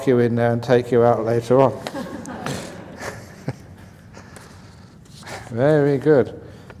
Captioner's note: laughs